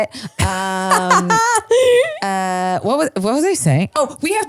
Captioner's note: laughs